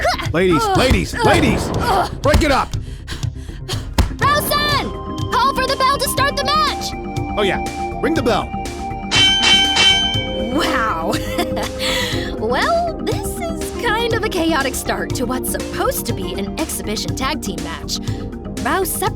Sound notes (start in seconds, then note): 9.0 bell Rings